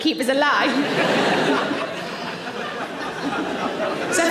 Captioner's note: audience laughing